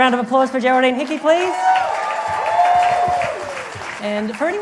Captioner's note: applause